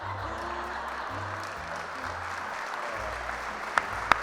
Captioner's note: applause